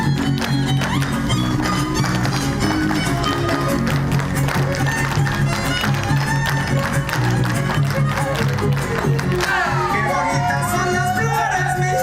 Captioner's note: applause